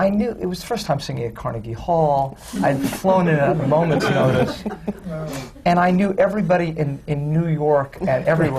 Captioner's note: laughter